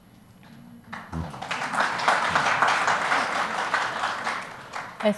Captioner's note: audience applauds